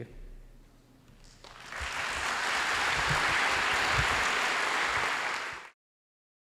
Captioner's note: applause